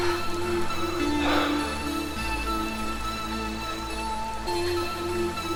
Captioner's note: gasps